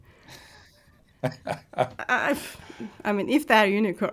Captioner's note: laughing